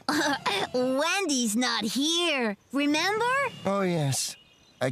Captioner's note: chuckling